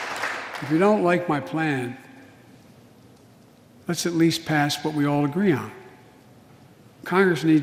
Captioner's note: applause